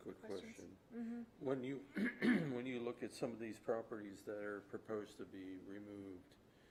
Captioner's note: clears throat and cough